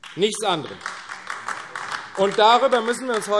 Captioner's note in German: Beifall AfD